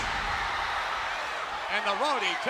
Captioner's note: body thuds